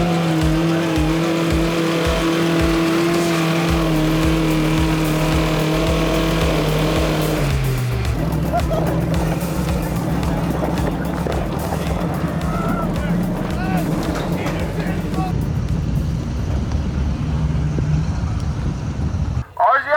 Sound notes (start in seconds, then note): 11.8 engine revving